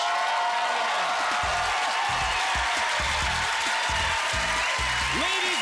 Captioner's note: applause